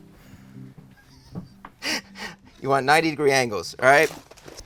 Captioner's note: chuckling